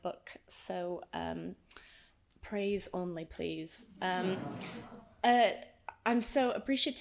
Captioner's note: audience laughs